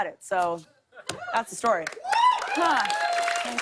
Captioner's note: cheers and applause